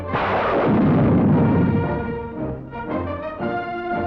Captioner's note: patriotic music; gun blast